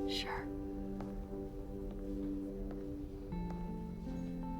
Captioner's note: footsteps depart